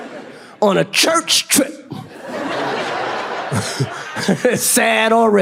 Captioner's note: audience laughs